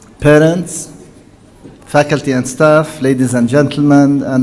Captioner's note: none